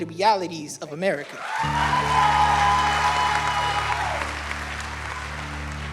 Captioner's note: crowd cheering and applauding